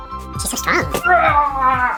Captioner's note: yelling